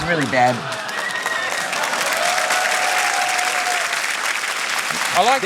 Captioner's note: cheering and applause